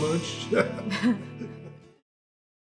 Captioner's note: both laugh